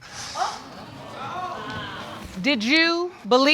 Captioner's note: audience exclaiming